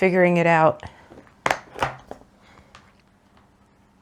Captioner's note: floss box clicks as it opens